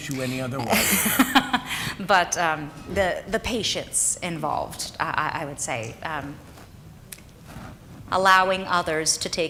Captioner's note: laughs